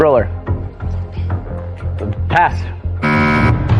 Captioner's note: whispering